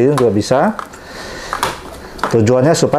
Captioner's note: inhale